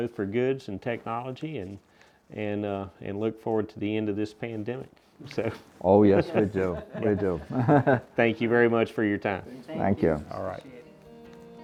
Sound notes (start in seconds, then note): 6.2 laughter